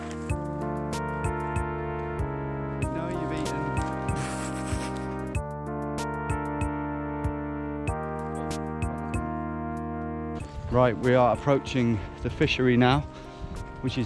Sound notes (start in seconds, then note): 4.2 laughs; 7.2 bouncy music